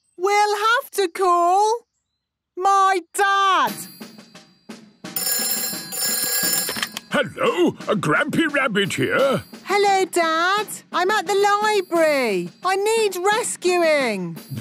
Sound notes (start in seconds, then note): 5.1 phone ringing